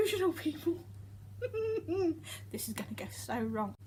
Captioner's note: laughing